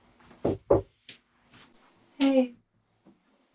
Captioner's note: knocks on door